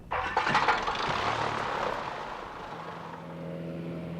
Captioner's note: plane rumbling